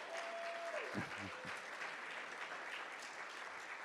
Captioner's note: audience cheers; audience claps